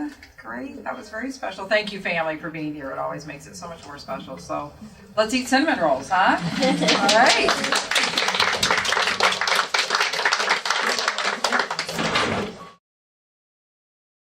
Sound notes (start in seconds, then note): 6.8 applause